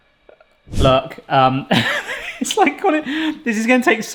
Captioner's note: laughs